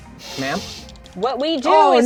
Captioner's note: pat